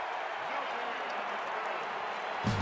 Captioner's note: crowd cheering